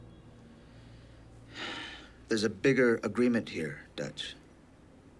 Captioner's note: sighs